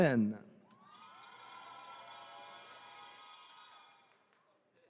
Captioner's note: attendees cheering